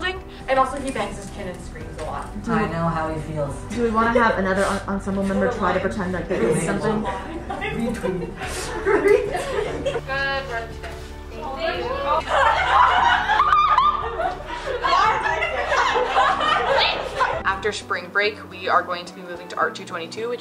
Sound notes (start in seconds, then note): 6.3 laughter; 12.2 laughter